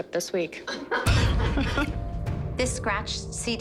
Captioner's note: laughter